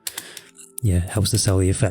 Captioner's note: taps on keyboard